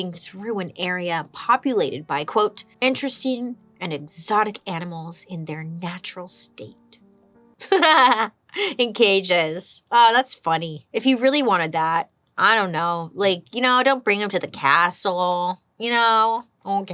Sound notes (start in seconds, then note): 7.6 chuckles